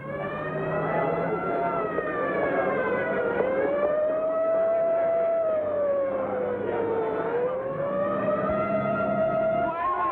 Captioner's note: sirens wailing; sirens and commotion